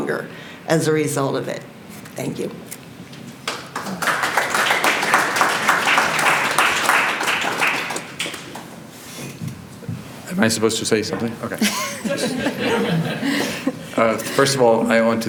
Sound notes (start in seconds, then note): 3.4 applause